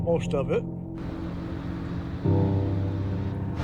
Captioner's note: ship motor